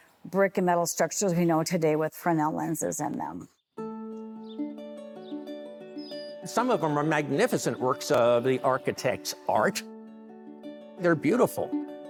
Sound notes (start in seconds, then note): 4.2 birds chirping